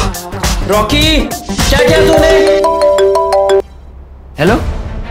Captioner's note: Phone Ringing